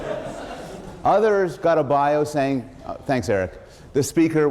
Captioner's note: laughter